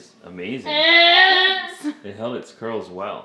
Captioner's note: vocalizes loudly; laughs